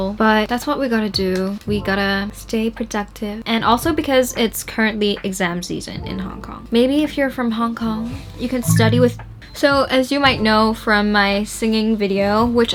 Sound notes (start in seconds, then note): 8.6 google home chimes